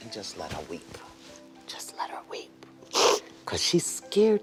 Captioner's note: sniffles